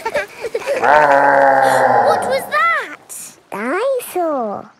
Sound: laughing; gasps; growling

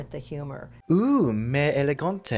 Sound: foreign language

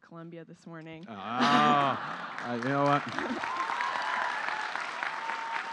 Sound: laughter; applause

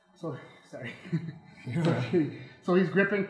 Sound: gentlemen chuckling

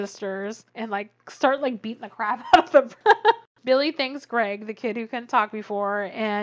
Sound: laughs

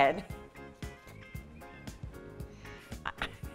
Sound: laughing

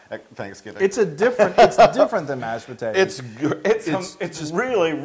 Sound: laugh

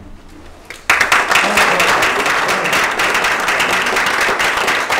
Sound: applause

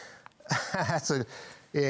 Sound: laughs

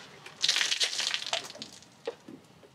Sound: beer spilling

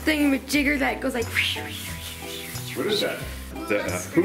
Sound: makes sound of wind blowing

